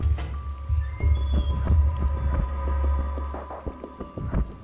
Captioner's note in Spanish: Sonido al abrir la puerta